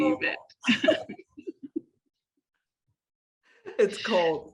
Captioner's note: laughter